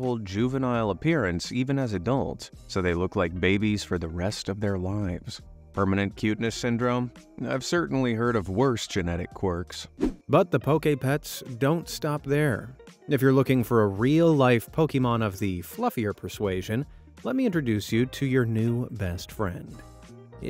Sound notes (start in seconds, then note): 10.0 air whooshing